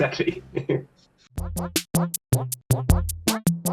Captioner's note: laughs